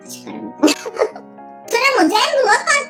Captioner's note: laughs